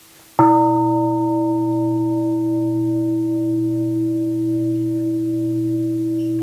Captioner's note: gong